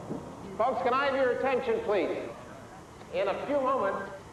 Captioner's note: Quarrington over speaker